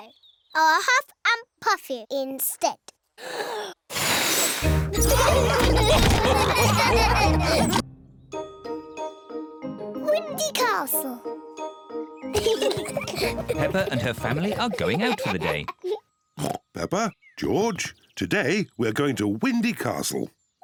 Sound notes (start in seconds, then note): 3.8 blows; 4.9 laughter; 12.3 kids giggle; 16.4 oinks